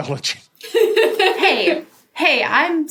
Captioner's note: guffaws